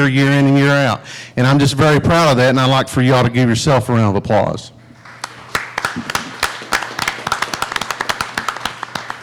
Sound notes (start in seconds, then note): 5.0 applauding